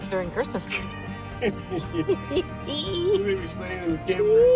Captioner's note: chuckling